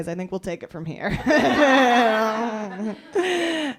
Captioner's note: laughter